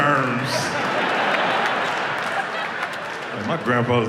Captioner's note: audience laughs